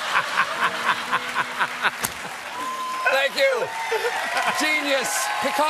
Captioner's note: laughter